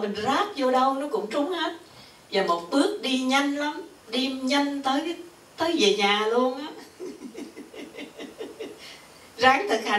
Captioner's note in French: rires